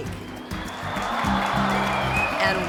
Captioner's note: crowd cheering